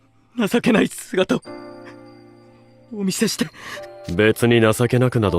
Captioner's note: sniff